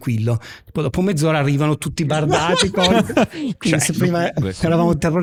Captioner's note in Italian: laughter